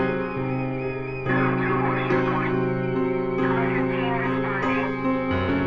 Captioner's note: police Radio